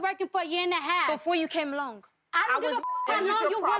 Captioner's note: beep